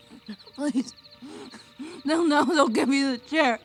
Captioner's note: choking